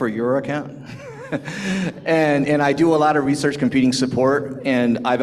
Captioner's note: laughs